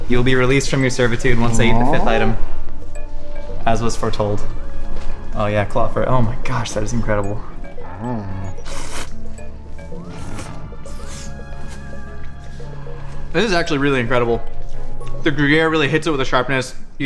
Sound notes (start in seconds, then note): 8.2 Glorbglerp hums; 9.9 slurping noises